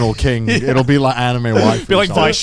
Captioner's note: chuckling; chuckles